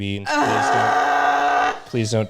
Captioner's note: anguished groan